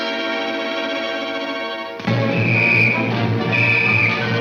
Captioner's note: whistle blares